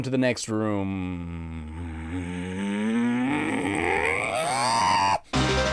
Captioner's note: more angry grunting